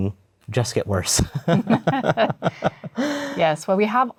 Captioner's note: laughter